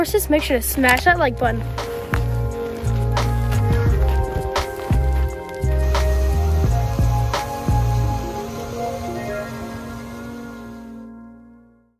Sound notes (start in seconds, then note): 2.7 upbeat music; 6.0 water spraying; 8.6 music fades